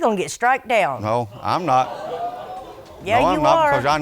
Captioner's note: audience exclaims